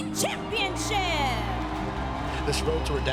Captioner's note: crowd cheering